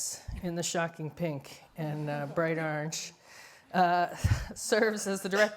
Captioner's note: laughs